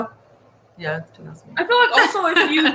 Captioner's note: laughing